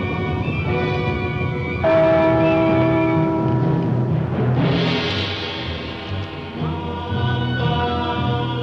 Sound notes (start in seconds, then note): 1.9 church bell rings